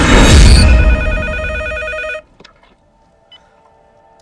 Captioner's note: phone rings